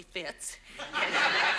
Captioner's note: audience laughs